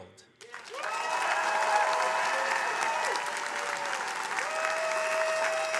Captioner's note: attendees cheering and applauding